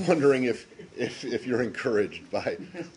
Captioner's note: laughter